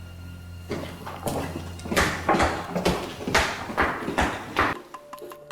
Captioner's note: footsteps